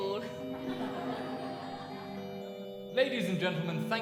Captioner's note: audience laughs